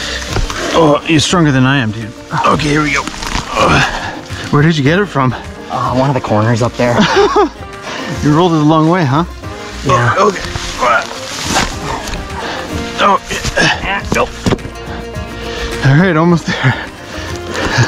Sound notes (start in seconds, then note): 10.7 both grunting